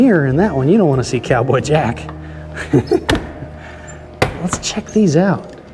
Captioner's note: laughs